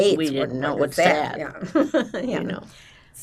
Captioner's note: laughing